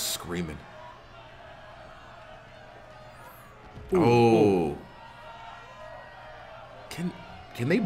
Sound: applause

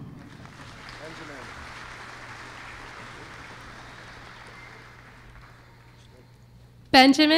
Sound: applause

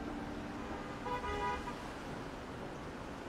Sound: horn blaring

